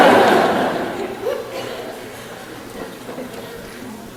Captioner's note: audience burst out laughing